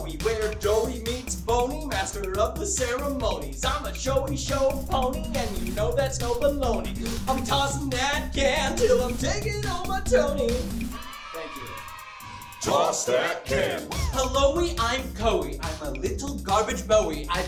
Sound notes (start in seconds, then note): 11.0 cheers